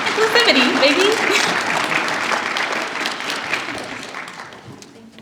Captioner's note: applause